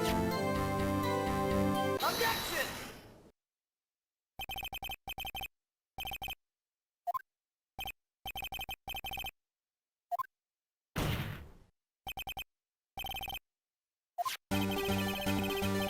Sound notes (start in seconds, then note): 10.9 slam noise